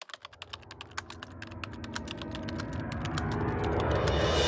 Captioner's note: typewriter sounds